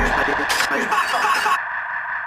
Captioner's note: upbeat music; screaming